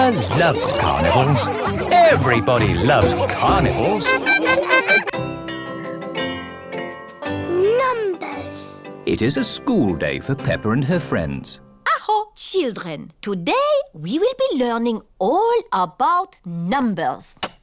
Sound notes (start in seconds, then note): 4.4 laughing